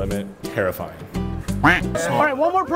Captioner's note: quacking